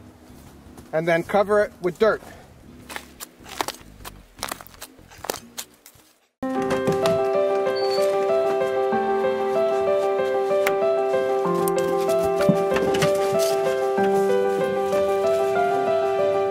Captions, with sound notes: and then cover it with dirt. (dirt plops on metal) (upbeat electronic music) (door creaks) (dog footsteps pad) (leaves crunch)